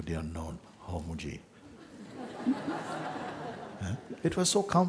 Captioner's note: laughter